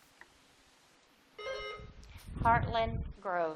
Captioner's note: buzzer dings